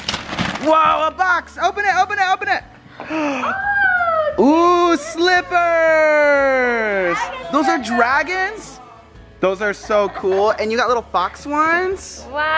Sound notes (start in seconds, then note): 3.0 gasps